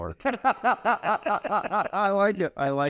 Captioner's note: laugh